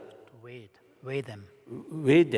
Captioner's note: foreign Language